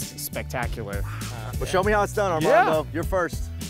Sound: gasps

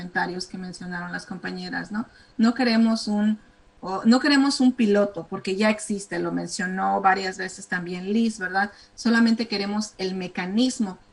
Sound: speaking spanish

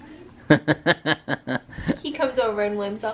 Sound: laughing

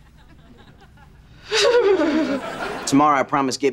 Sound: shuddering

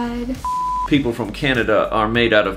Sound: screen beeps

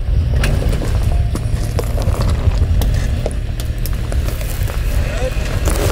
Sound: rocks crunching under tire

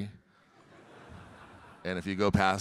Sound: audience laughing

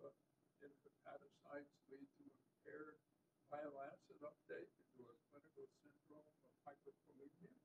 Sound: off microphone

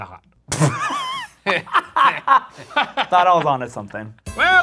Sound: laughing

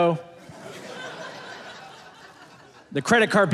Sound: audience laughing

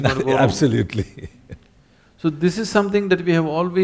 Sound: laughs

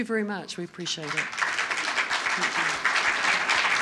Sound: applause

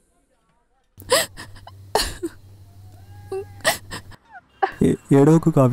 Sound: crying

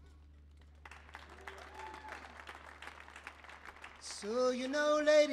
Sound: audience applauds

